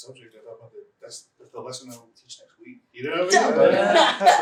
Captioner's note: laughter